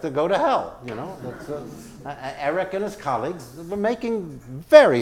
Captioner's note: laugh